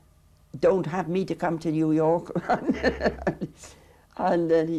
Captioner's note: chuckles